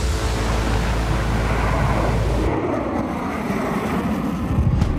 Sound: B-1 Lancer swooshing

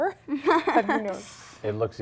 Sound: light laughing

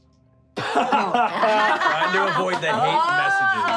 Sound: laughing

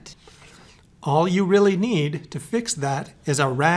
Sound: voiceover

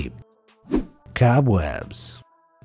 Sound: air whooshing

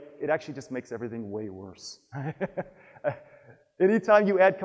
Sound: chuckles

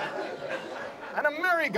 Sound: audience laughs

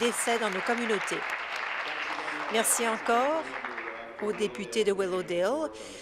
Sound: applause

